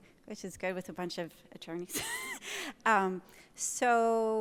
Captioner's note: laughs